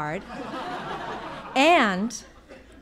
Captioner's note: audience laughing